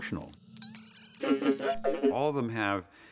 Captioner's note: laughing